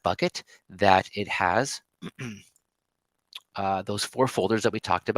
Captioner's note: clears throat